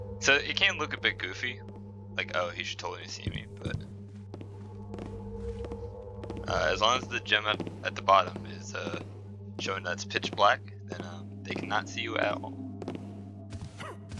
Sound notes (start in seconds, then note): 3.2 footsteps on wood getting louder